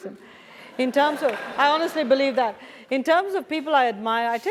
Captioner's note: applause